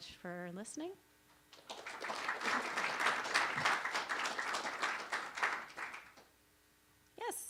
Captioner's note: applause